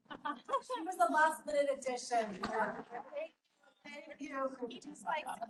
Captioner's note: chatter